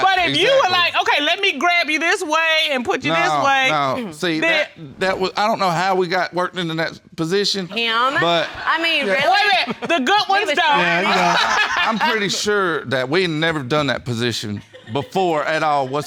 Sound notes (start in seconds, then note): 10.7 laughs